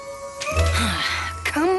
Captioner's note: Spike sighs